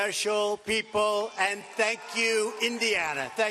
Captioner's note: applause; cheers and applause